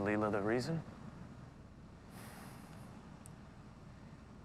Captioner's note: sighs